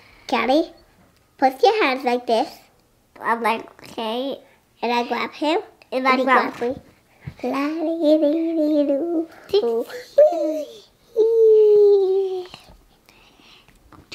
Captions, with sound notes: - I'm like, "Callie, put your hands like this." - I'm like, "Okay." - And I grab her and I go (babbling).